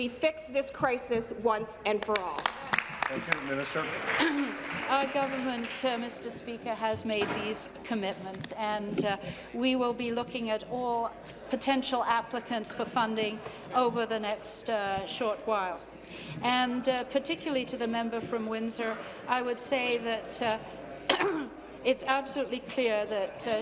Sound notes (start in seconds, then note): 5.1 applause